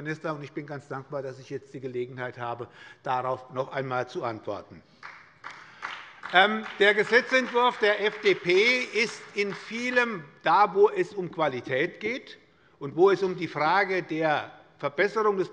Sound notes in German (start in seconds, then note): 4.9 Beifall bei der SPD